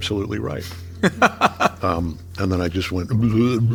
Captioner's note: laughing